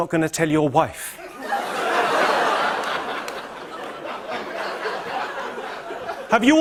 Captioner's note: laughter